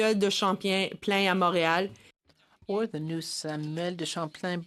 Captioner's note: speaking in French